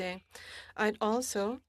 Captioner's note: speaking French